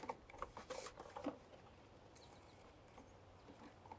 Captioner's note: tube rustling